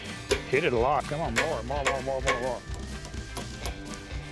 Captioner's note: hammering